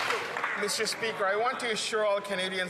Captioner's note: some Applause